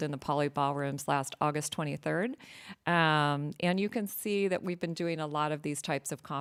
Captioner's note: none